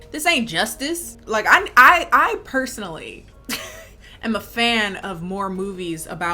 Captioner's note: chuckling